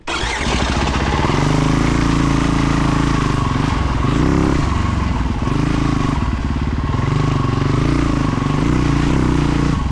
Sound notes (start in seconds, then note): 3.9 engine revving